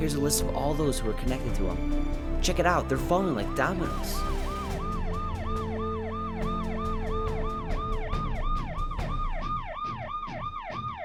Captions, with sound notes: Here's a list of all those who were connected to Wornwall. Check it out they're falling like dominoes. (police siren blaring)